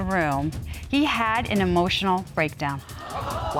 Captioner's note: audience gasps